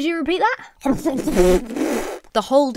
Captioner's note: splutters